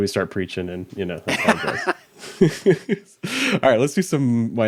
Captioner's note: both laughing